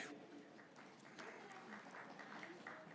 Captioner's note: graduates cheering